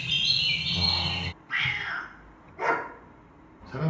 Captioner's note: birds chirping; cat meowing; dog barking